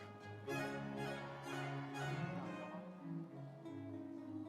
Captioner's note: audience applauds